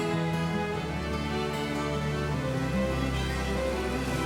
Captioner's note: water rushing